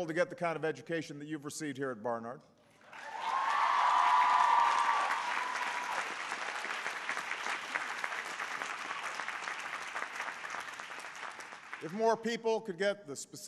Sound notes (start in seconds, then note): 2.8 applause